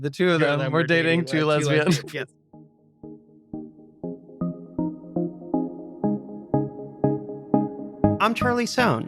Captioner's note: laugh